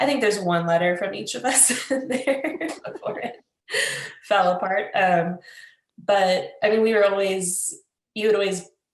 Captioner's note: laughs